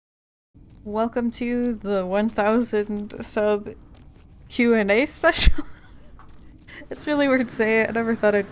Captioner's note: laughs